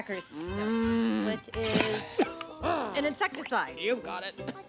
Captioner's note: coughing